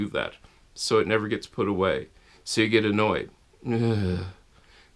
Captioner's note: ugh